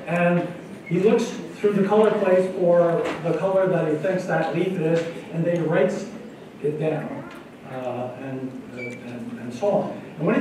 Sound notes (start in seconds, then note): none